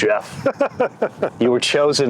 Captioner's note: laughs